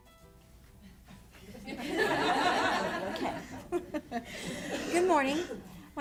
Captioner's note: audience laughs